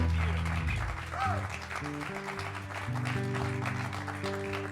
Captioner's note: cheers and applause